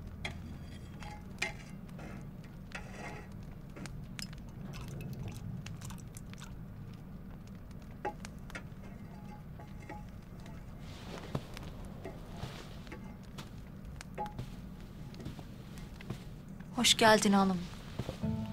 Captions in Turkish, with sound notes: (Çadır ortam sesi) (Çadır ortam sesi) (Çadır ortam sesi) Hoş geldin hanımım.